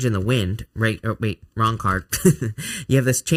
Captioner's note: chuckles